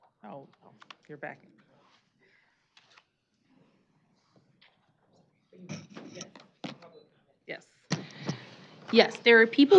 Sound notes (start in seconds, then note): 6.2 indistinct chatter